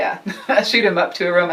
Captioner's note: laughs